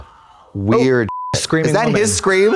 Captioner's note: beep